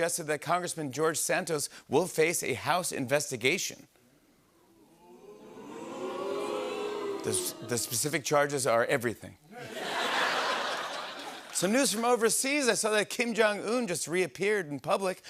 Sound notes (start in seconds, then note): 4.8 audience "Oohs"